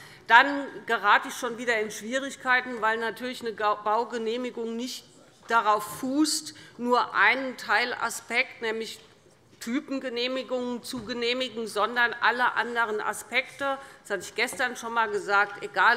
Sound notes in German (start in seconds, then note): none